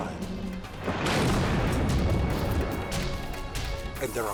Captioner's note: crane booms